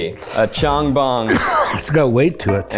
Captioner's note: Chong coughs